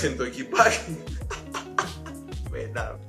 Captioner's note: laughs in spanish